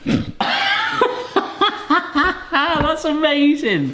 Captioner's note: laughs